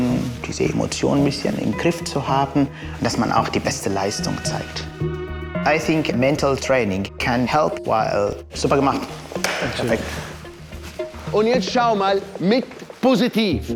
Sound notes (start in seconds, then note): 8.3 in German